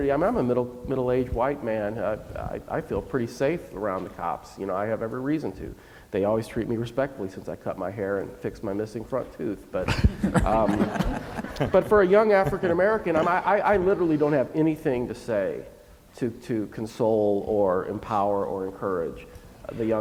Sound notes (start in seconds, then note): 9.8 laughing